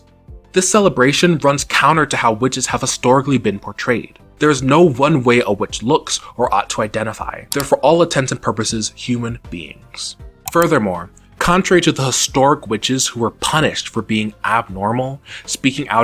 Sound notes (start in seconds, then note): none